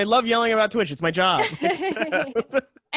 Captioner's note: laughter